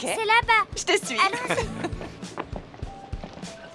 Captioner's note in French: rires